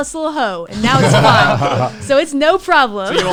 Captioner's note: laughs